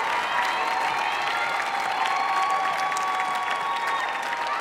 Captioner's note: audience cheering